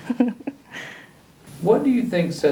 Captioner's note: laughs